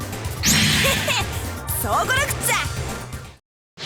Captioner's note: chuckle